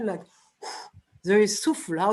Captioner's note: blows